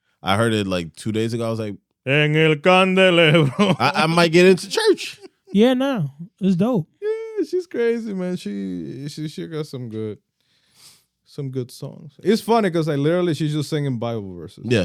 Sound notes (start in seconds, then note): 2.8 speaking In Foreign Language